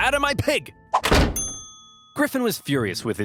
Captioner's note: door slams